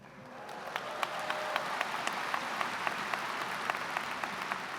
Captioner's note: audience applauds